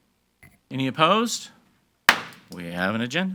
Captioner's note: gavel bangs